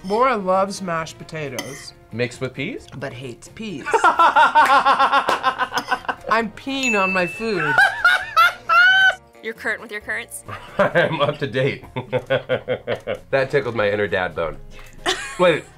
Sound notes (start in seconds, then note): 3.9 laughs; 7.5 laughs; 11.8 laughs; 14.9 laughs